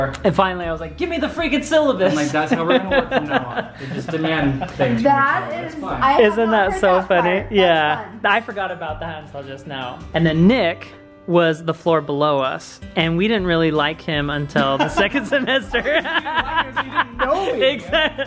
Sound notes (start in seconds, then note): 14.6 laughs